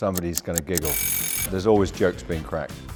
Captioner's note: alarm